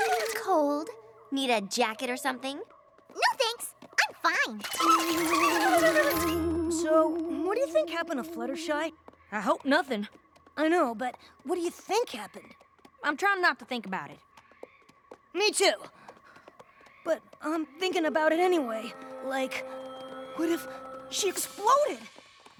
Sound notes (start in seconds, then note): 4.8 shuddering